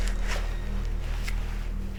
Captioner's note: pages flap